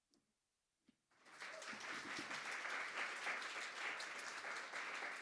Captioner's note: audience applauding